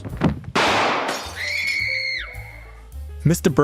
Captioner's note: scream